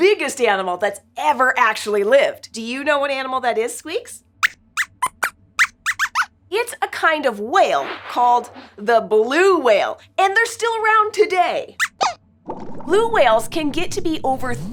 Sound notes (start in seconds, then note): 5.6 squeaks squeaks; 11.8 squeaks squeaks